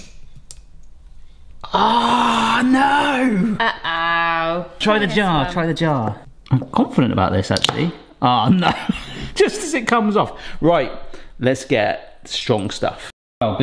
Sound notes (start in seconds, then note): 0.1 tool cracks; 7.5 tool cracks; 8.4 laughs